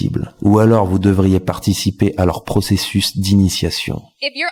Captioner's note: french dialogue continues